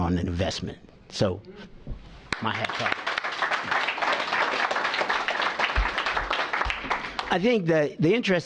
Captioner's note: applause